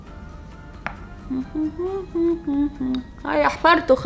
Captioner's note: humming